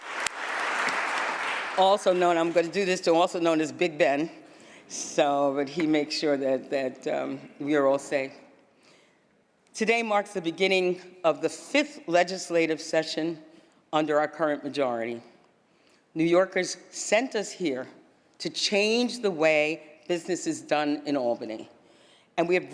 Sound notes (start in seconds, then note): 2.8 applause